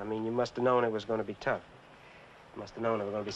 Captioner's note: none